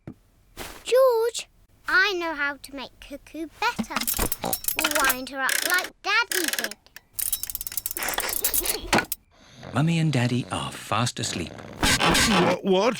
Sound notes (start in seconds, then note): 4.6 oink!; 8.1 laughs